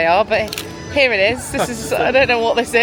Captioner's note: camera clicking